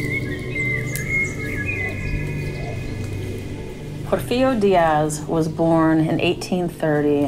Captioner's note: soundbite of birds chirping